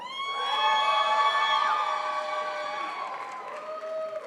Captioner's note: crowd applauds